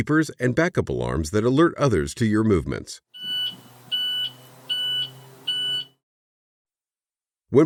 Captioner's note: SFX beeper